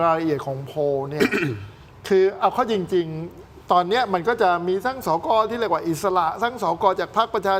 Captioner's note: clears throat